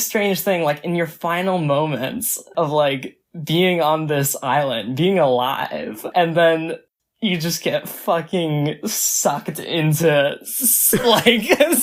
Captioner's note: both laugh